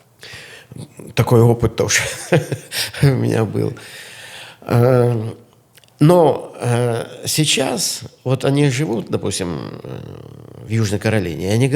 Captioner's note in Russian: смех